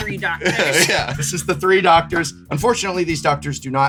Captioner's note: laughing